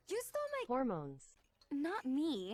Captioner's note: TTS voice